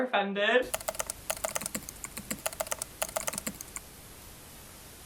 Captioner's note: keyboard keys clicking